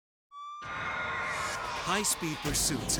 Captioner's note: sirens blaring